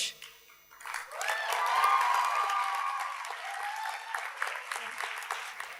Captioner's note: audience cheers and applauds